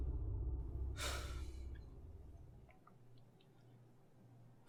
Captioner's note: Hank sighs